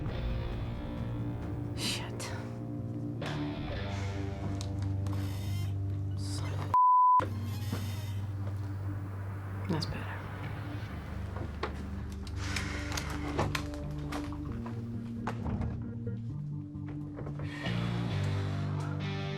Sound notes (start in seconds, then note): 17.4 exhales